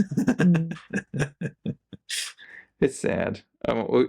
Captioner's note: laughing